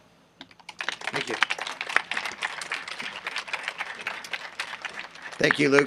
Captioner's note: audience applauding